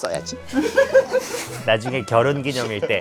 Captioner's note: heehee ><